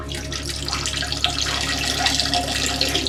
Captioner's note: peeing sound